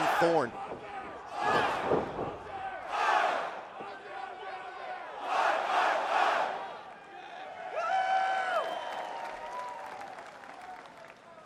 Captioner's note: fans chanting